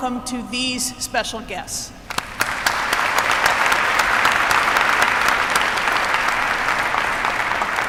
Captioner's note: applause